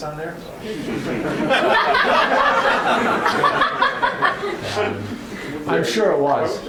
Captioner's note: laughter